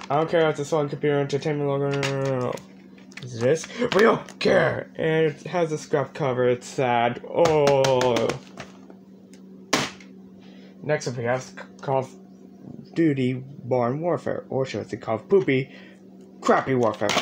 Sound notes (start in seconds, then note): 9.6 thud